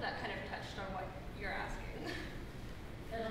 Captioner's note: laugh